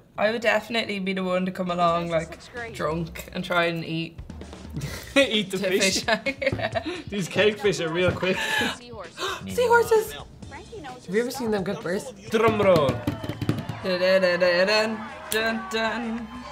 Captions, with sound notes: I would definitely be the one to come along like, drunk, and try and eat- -[laughing] Eat the fish. These cake fish are real quick. -[gasp] Seahorses! Have you ever seen them give birth? - Drum roll! - [Mimicking drum roll]